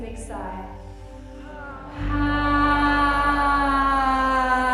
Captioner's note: all sigh slowly